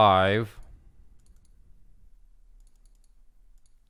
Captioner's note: clicking